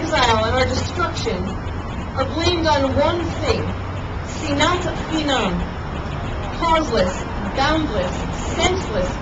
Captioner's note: Hebrew